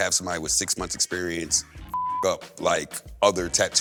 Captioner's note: beep